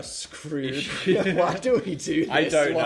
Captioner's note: laughing